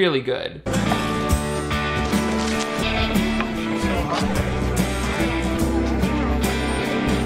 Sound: lively music; excited chatter

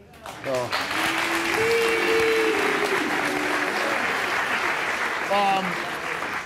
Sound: audience applauding

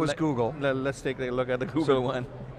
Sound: chuckles

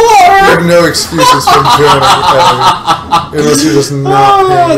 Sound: laughs

